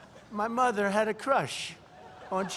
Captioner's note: laughter